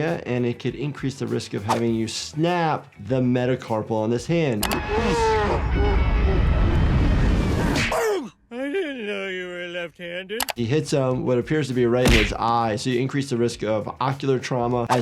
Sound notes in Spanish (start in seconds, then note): 5.0 Homero riendo en cámara lenta; 7.8 golpea tierra; 7.9 Homero gime; 12.1 golpea tierra